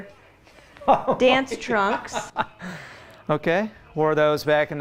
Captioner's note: laughing